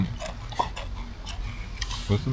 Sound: laughs

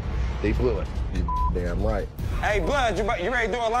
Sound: beep

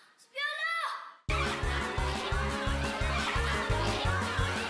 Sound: all clamoring

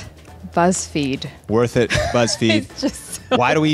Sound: laughs

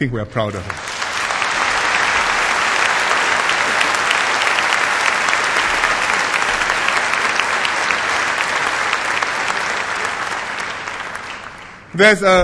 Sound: applause

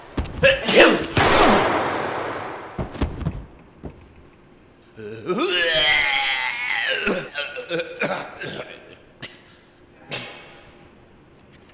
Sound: sneezes

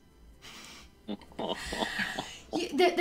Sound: laughter

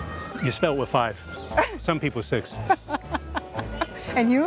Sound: laughs

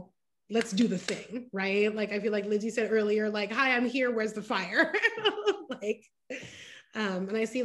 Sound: laughter

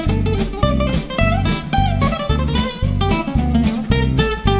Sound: sound Attack Drum Flame Drum

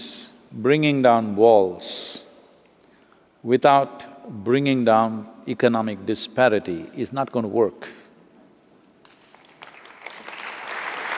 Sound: applause

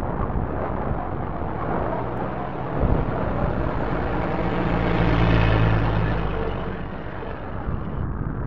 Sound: truck engine

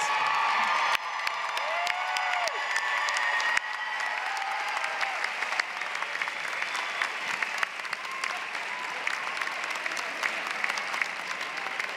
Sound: applause

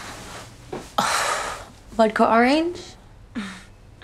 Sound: exhales; Saffron chuckles

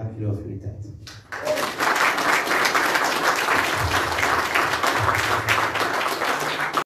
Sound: applause

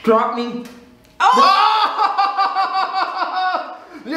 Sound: laughs

